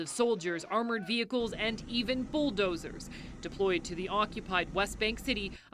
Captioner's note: screaming